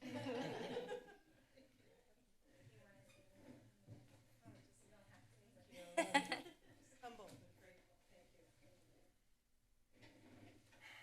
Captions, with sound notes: [laughter] [background chatter][laughter] -Just humbled and grateful. Thank you.